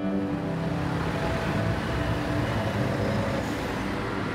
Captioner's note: traffic hums